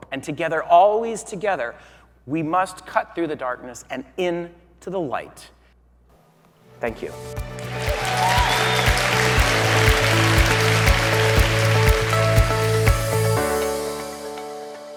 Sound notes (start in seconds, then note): 7.6 audience cheering; 10.1 upbeat music